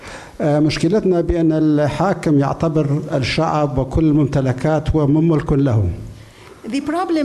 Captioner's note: speaking in foreign language